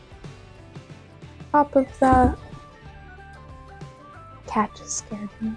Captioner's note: cat thuds in box